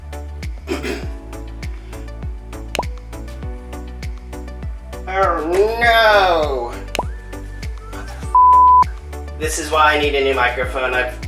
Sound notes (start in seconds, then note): 0.6 cough